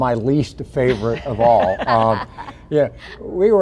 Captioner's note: laughs